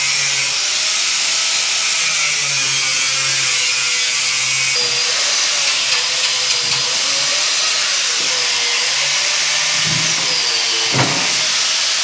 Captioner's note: drill whirring